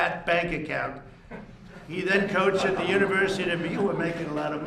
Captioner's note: laughter